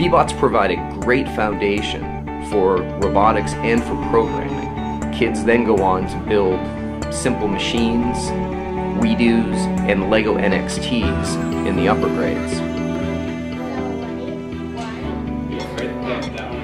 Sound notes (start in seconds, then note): 0.8 gentle music; 3.6 beeping